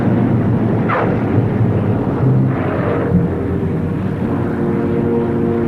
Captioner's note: plane tires squealing